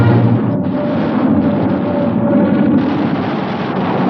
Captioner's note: guns firing